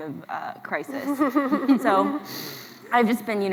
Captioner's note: laughs